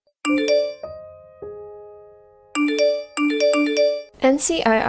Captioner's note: phone Notifications